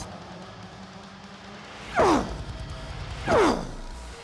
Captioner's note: continues grunting